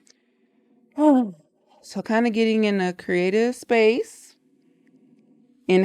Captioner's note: exhales